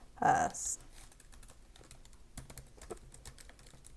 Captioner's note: keyboarding